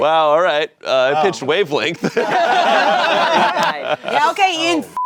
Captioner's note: everyone laughing; beep